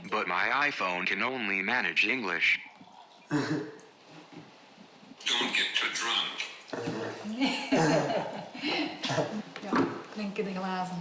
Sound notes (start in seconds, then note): 3.3 chuckles; 7.3 chuckles; 7.3 laughs